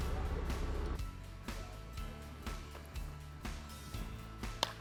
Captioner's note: baseball hit